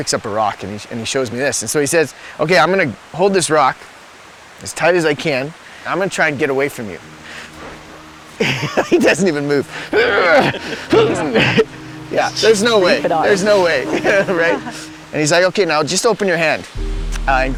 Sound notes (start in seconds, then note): 7.0 mellow music; 8.2 laughing; 9.7 struggle and grunts